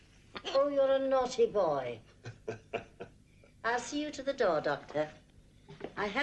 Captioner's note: laughter